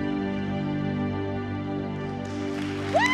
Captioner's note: applause, cheering